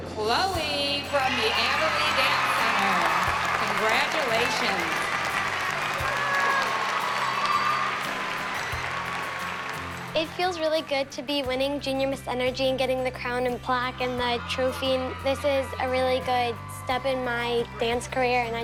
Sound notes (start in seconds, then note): 10.7 cheers and applause; 12.0 bright music playing